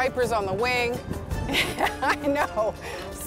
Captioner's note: laughing